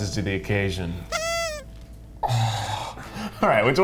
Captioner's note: party horn blows